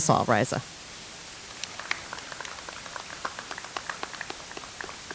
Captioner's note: audience applauds